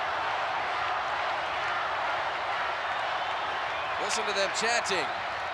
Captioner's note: audience cheering